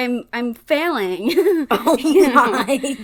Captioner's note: laughing